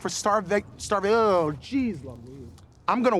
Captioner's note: stumbles over words